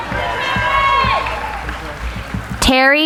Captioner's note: applauding